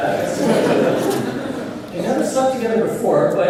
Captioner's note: laughter